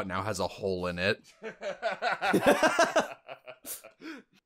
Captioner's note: laughter